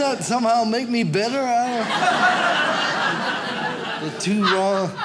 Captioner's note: audience laughs